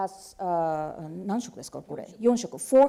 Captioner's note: speaking japanese